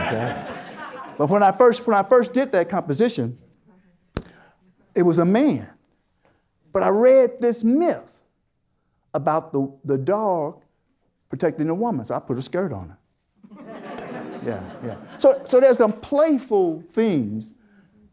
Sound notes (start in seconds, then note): 13.5 audience Laughter